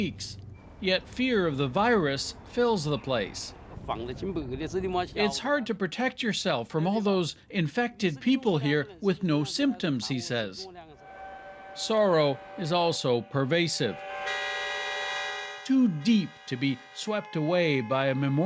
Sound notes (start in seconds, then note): 5.5 speaking Foreign Language